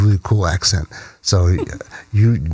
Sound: chuckles

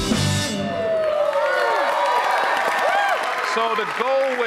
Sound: audience cheering; audience applauding

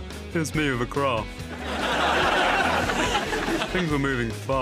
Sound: audience laughs

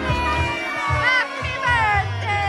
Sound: background chattering; everyone cheering

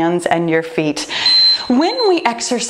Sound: timer beeping

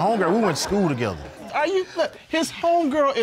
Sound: all laughing

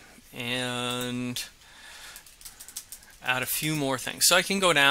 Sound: keyboard clicking

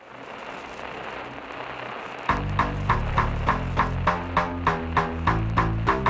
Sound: radio noise

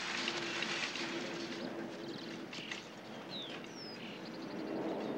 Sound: birds chirping

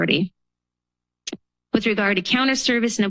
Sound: pause

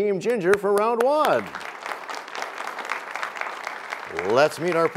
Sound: applause

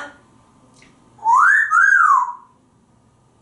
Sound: wolf whistling

